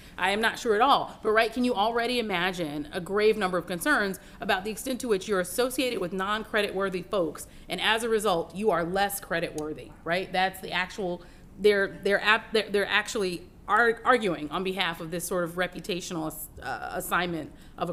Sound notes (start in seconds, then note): none